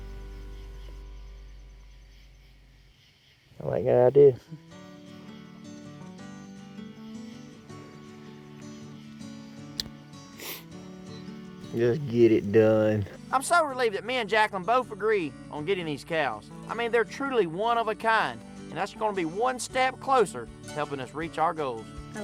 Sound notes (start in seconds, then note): 10.4 smooch